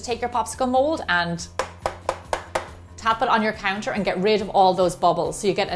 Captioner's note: tap, tap, tap, tap